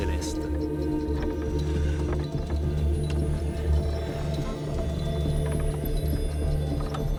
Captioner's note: dramatic music; wood creaking